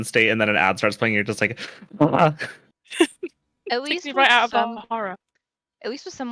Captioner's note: sounds of fury